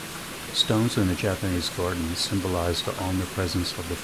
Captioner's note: waterfall sounds